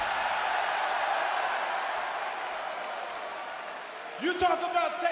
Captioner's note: crowd cheering